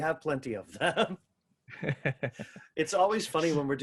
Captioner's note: chuckles